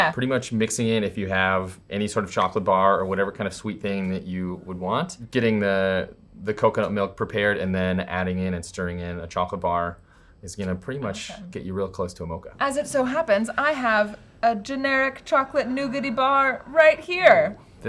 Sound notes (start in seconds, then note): none